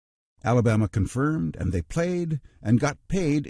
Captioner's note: voiceover